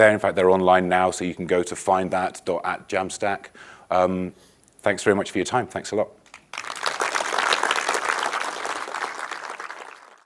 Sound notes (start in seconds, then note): 6.3 audience applauding